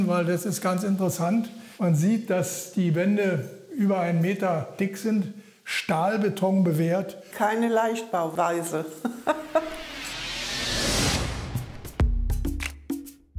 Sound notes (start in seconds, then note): 9.0 chuckles; 11.6 tense drum music